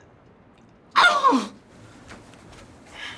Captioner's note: exclaims